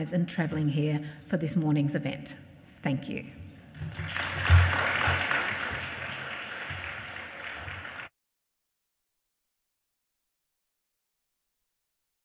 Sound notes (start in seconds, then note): 3.7 audience applauds